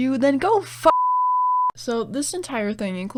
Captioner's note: beep